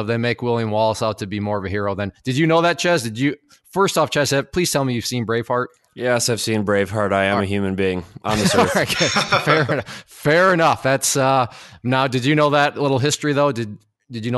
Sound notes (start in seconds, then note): 8.2 laughs